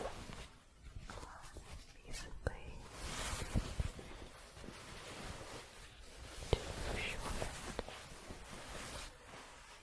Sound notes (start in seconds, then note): 3.1 shuffling